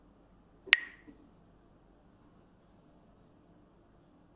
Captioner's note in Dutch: klakt met stokjes